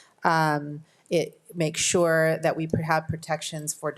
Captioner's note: none